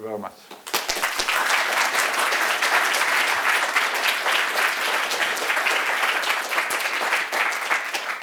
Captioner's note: applause